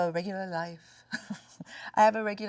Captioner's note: Sandra laughs